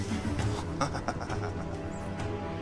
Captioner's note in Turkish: Gülme sesleri